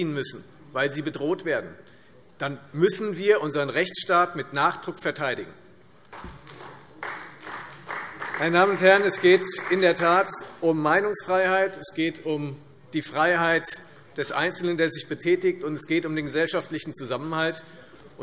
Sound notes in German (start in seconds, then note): 6.1 Beifall